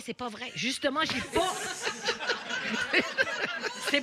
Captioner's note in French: rires